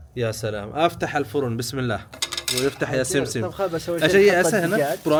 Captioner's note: Arabic